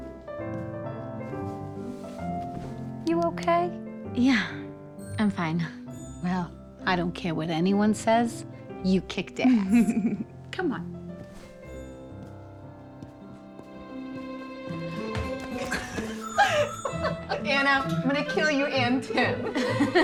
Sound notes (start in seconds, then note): 15.5 laughter; 19.1 laughs